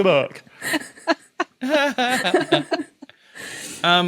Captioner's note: giggling